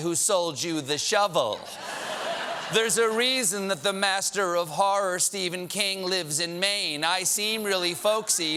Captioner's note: laughter